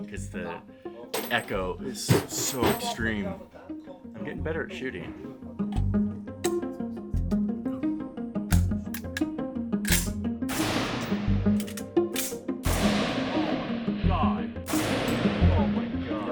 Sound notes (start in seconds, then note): 8.5 gun clicks; 10.5 gun fires; 11.5 gun clicks; 14.6 gun fires; 14.7 gun clicks